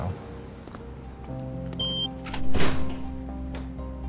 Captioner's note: beep, door unlocks